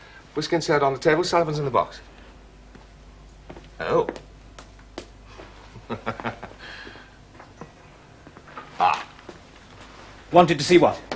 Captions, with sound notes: Whisky and soda on the table, Sullivans in the box. Oh... (Chuckling) - Ah. - Wanted to see what?